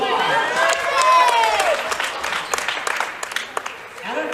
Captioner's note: cheering